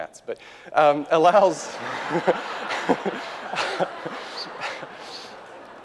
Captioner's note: laughter